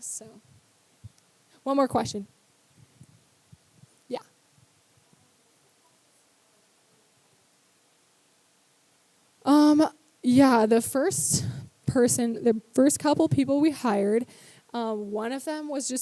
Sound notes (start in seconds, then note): none